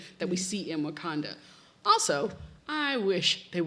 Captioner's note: none